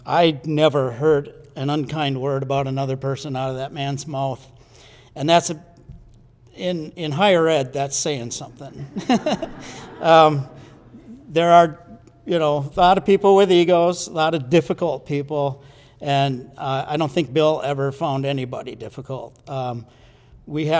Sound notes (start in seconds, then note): 8.7 laughs; 8.8 audience laughs